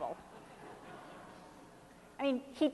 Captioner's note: audience laughs